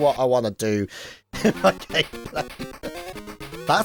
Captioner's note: chuckles